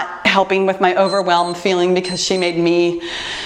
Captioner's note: timer beeps